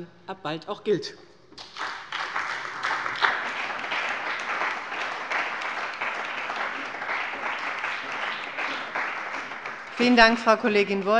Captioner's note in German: Beifall bei der CDU und dem BÜNDNIS 90/DIE GRÜNEN